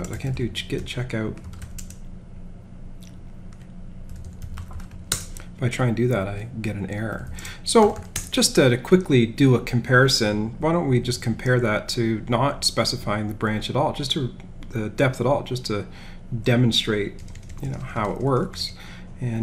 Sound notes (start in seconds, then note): 1.8 keyboard clicking